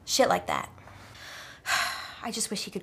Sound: sigh

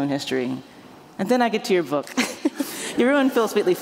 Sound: laughs

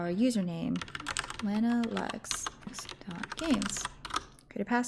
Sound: keyboard clicking

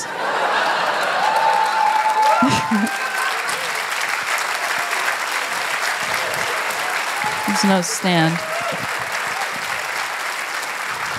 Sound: applause; laughter

